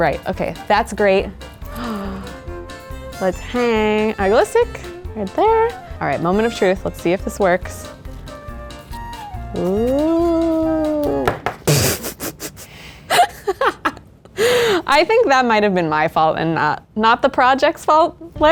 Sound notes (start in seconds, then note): 8.6 playful instrumental music; 11.7 laughs